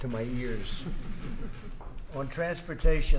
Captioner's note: laughter